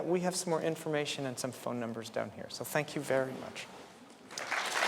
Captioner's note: applause